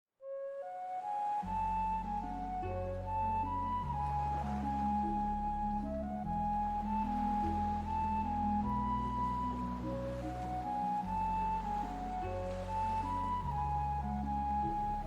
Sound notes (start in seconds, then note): 0.5 gentle music; 3.0 waves crashing